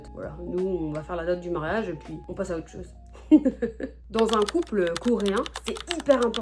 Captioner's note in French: rires